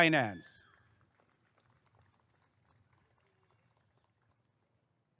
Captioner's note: applause and cheering